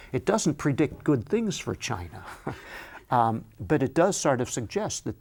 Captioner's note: chuckles